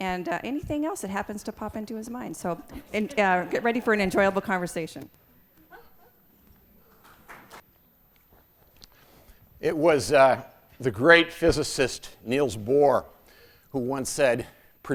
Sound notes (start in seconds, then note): 7.0 applause